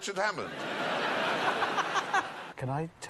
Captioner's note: laughter